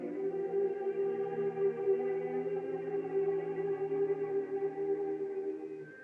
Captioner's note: none